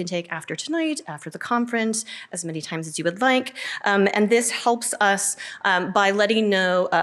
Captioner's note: none